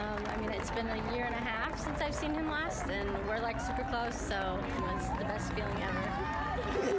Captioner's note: cheering